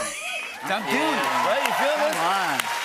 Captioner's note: cheers and applause